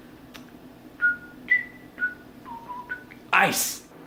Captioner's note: whistles